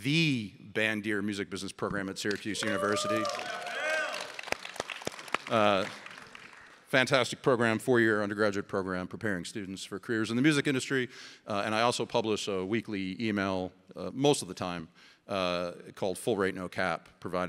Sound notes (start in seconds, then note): 2.3 audience applauding; 2.4 audience cheering